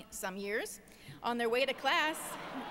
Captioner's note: applause